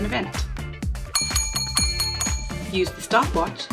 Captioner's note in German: Klingeln eines Glöckchens